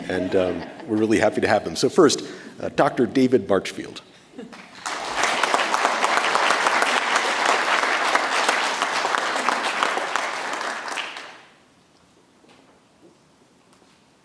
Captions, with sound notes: And we're really happy to have them. So first, Dr. David Marchfield. (audience applauds)